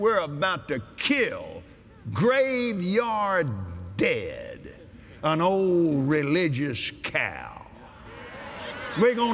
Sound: audience Agrees

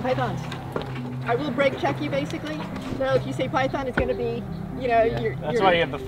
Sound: brakes

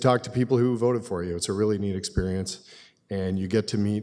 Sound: none

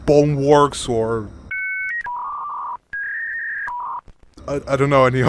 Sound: dial up connection

